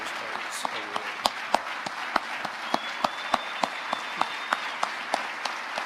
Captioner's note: audience applauding